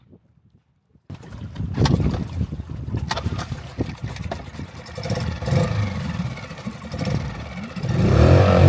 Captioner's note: rumbling